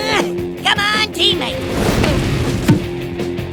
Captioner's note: trail of flames roars as it passes